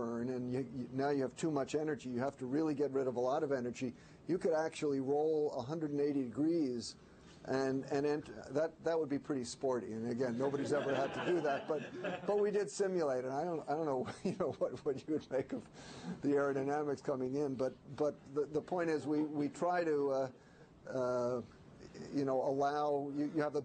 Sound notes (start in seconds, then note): 10.4 laughter